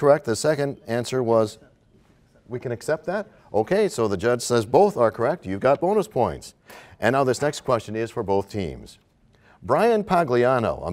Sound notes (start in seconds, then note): none